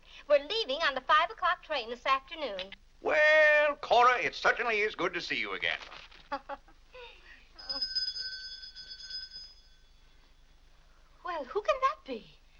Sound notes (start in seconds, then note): 6.2 Cora laughs; 7.6 bell rings